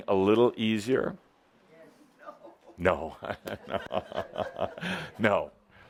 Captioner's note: Adamus chuckles